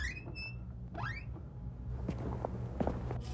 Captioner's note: door creaking